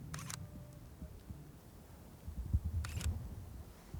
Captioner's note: camera clicking